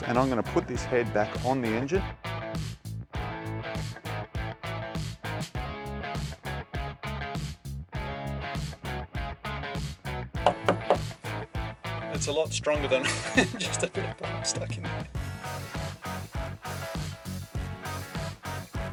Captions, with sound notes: and I'm gonna put this head back on the engine. (upbeat jazz music) (knocking) It's a lot stronger than just a bit of plastic. (upbeat jazz music)